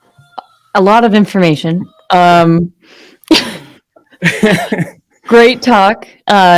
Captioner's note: woman and laughing